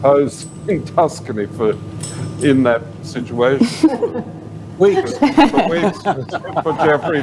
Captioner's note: laughter